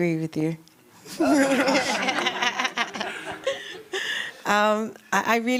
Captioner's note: laughter